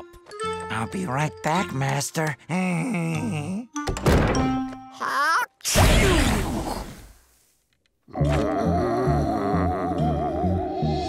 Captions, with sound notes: I'll be right back, Master. [chuckles] [sneezing] [moaning]